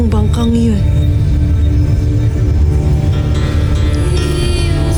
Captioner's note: ethereal music playing; molten surge rumbles